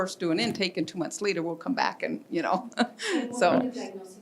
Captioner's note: laughs